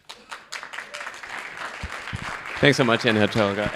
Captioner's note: audience applauding